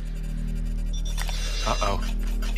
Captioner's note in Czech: Pípání